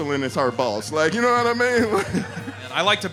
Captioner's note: laughing